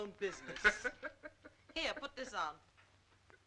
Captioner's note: Joe laughing